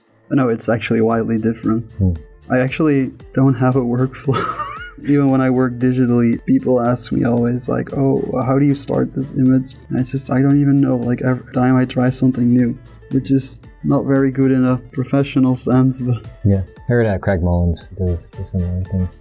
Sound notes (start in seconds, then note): 4.2 chuckles